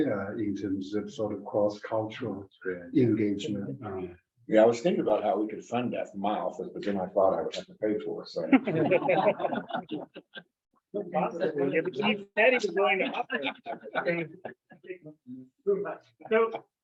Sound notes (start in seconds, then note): 8.5 members laugh; 11.0 members chattering